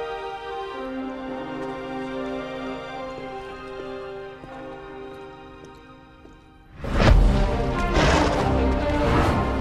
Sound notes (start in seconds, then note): 7.9 blowing